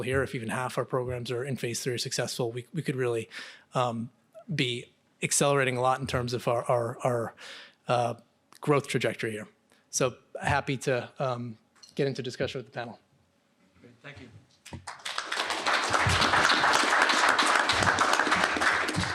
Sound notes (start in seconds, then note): 14.7 applause